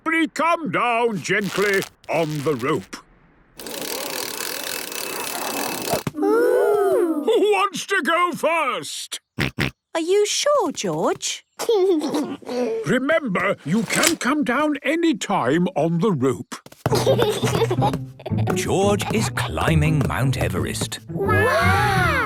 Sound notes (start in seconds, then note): 10.0 George snorts; 11.9 giggles; 16.9 giggles